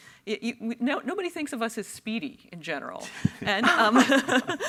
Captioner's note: panelists laugh